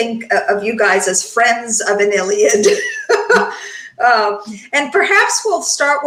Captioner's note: laughs